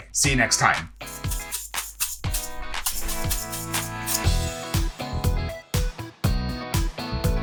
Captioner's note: upbeat music; quinoa rattling